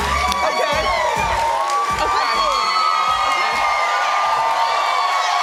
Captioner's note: audience yelling